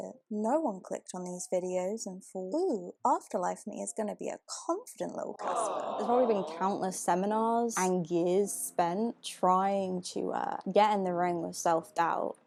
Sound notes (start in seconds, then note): 5.4 audience 'awws'